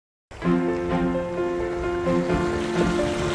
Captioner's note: sound of waves crashing